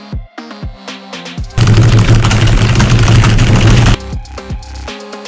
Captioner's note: extreme gamer rage levels of typing Noises